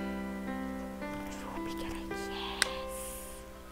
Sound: whispering

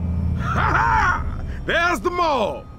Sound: laughs

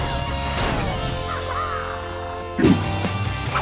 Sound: chattering

